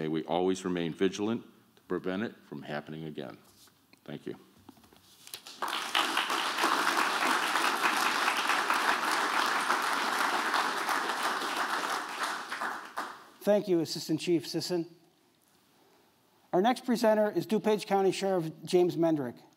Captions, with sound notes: we always remain vigilant to prevent it from happening again. Thank you. [APPLAUSE] --Thank you, Assistant Chief Sisson. Our next presenter is DuPage County Sheriff James Mendrick.